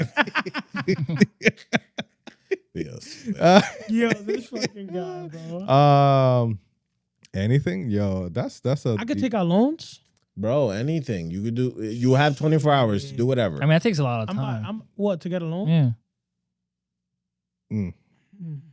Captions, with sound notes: (Laughing) Yo, this fucking guy, bro. Anything, yo, that's a-- I could take our loans. Bro, anything, you could do, you have 24 hours, do whatever. I mean, that takes a lot of time. I'm like, what, to get a loan? Yeah.